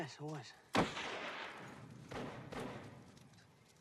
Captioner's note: gunshots